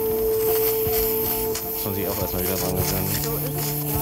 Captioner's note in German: Sauggeräusche